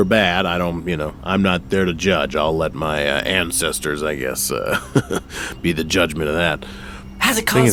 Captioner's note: laughs